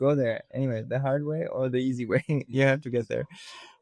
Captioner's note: chuckles